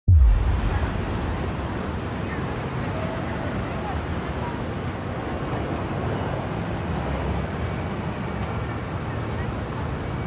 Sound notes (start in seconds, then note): 0.1 street sounds, voices